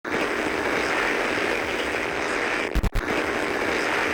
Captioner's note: static